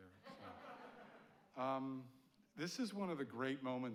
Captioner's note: audience laughing